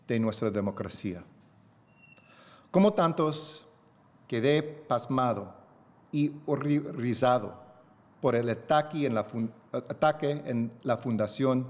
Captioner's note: remarks in spanish; speaking spanish